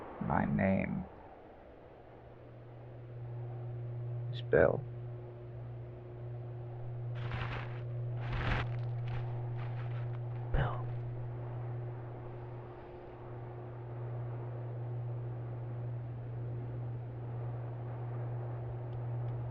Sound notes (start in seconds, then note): 6.5 electrical lines hum gently; 10.5 quietly